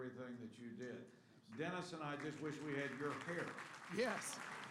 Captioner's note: applause